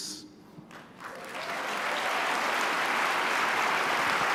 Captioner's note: applause